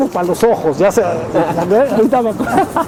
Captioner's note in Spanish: Risas